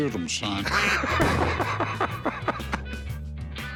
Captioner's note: laughter